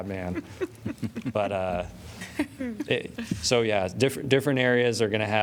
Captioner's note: laughter